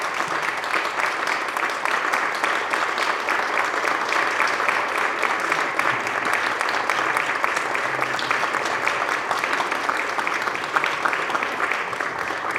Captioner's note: applause